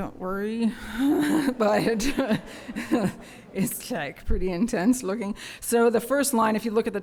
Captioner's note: laughter